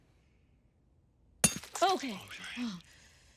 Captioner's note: hammer clinking